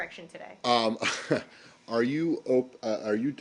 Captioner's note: laughter